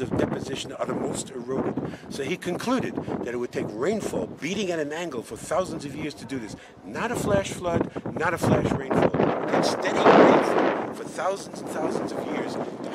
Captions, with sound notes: of deposition are the most eroded. So he concluded that it would take rainfall, beating at an angle for thousands of years to do this. Not a flash flood, not a flash rainfall (wind whistling) and steady rain for thousands and thousands of years.